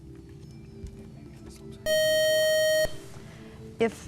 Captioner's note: buzzer